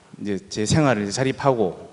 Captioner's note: none